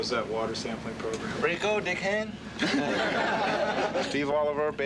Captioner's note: laughing